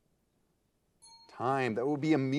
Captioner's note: timer beeping